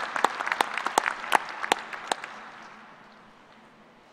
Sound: applause

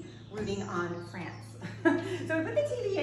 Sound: woman laughs

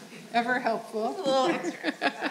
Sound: laughing

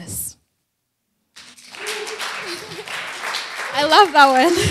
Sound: applause

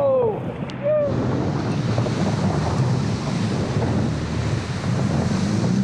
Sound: water rushing rapidly

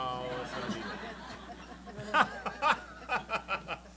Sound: laughter

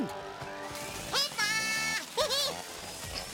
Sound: chainsaws buzzing; Bongalalas chirping

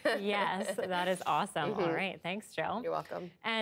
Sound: laughter

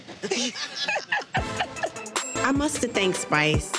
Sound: laughing

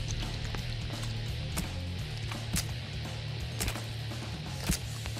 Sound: rock music playing; squishing

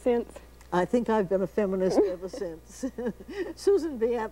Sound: laughs

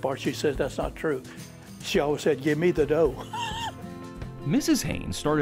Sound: laughs

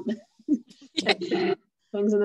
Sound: chuckling

